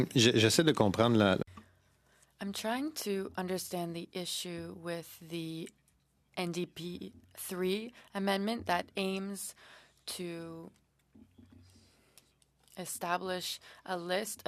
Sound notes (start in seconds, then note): 8.1 speaking French